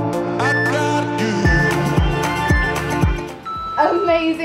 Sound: timer beeping

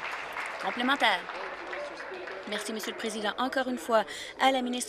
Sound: applause

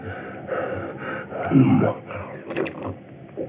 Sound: grumble

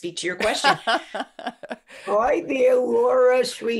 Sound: laughs

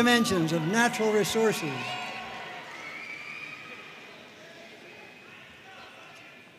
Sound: audience cheering and applauding

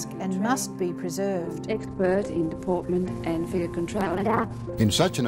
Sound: sound distorts

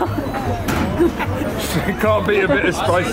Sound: everyone laughing

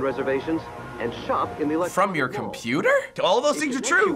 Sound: feigned disbelief

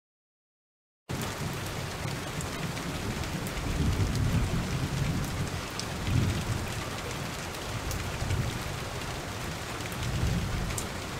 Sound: sound of thunder

